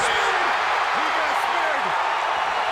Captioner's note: crowd cheering